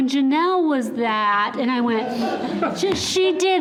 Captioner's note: all laughing